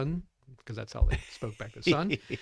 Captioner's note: laughs